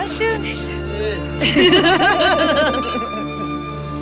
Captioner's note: laughing